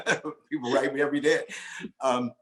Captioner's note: laughs